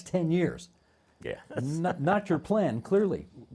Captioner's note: chuckling